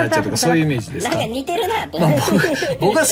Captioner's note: laughs